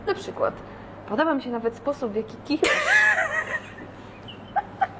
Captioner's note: laughter